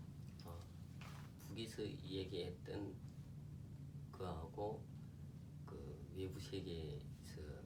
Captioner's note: speaking korean